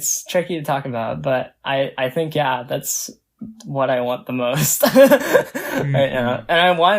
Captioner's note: laughs